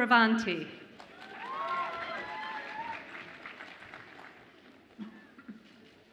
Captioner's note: audience applauds and cheers